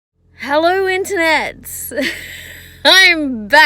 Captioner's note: laughs